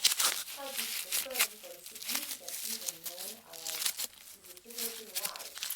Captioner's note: loud ripping of paper